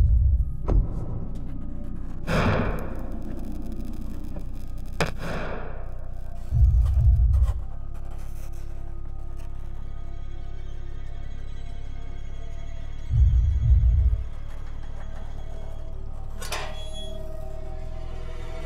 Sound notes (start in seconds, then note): 0.9 distant thumping; 4.8 thumping; 9.9 ominous music